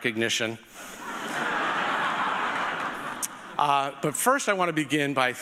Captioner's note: audience laughing